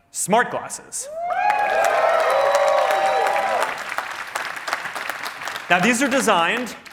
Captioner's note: cheering